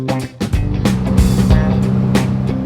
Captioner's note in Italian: Motore che sale di giri